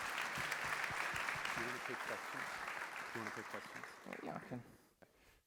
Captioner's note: applause